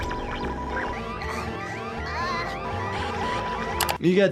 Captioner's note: alarm buzzing